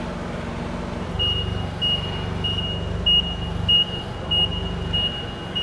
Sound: beeping, motor humming

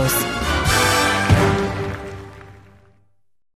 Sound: applause

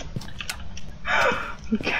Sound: gasp

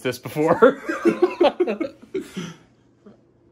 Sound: tertawa

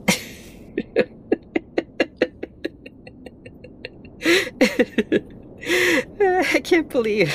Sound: laughing

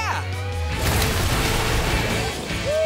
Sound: whirring

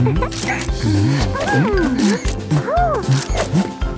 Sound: camera clicking; squeals happily, chuckles; Brown grunting; camera clicking

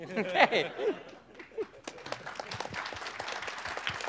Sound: applause

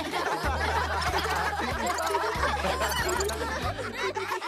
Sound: laughter; squirrel Chatters

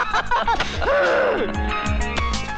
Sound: laughs; grunts

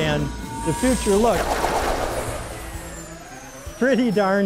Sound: robot whizzing and firing

